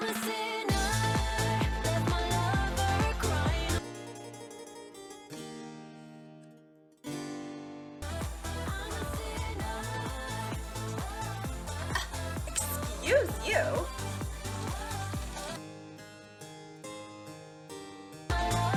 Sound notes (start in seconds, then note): 0.0 medieval music; 4.1 medieval music; 8.0 upbeat music; 10.6 scoffs; 16.1 medieval music